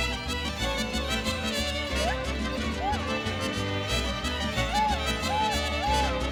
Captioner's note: mariachi music; vocalist shouting